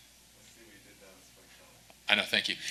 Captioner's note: speaks faintly